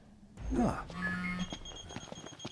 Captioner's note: phone Rings